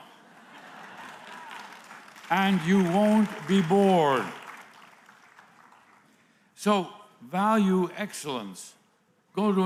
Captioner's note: applause